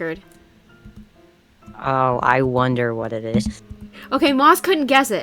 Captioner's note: sarcastically